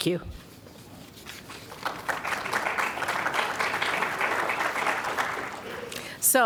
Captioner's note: applause